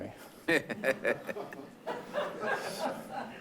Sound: laughing

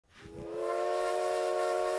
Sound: train whistle

